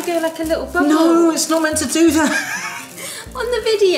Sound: laughs

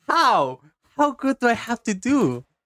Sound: none

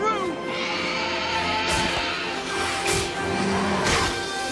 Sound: roaring

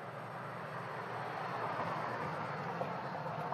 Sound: car whirs

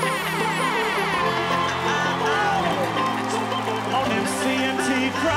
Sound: cheering and applause

